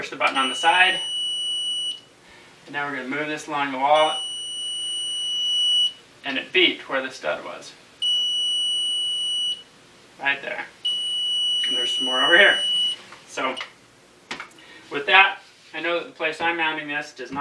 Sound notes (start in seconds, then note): 0.3 beeping; 4.0 beeping; 8.2 beeping